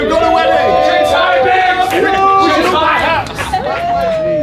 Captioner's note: all applauding